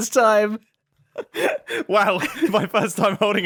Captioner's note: laughs